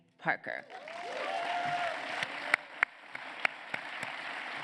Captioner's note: applause